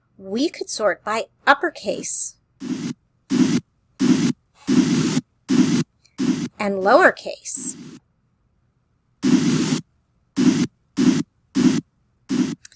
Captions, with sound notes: We could sort by uppercase. [scraping sounds] And lower case. [scraping sounds]